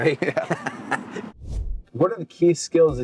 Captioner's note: joint laughter